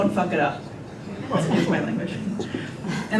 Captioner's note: group laughter